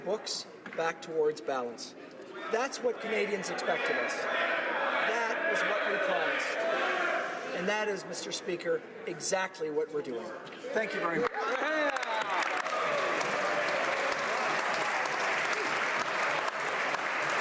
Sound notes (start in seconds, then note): 9.6 crowd Noise; 15.8 applause